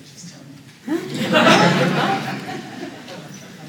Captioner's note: laughter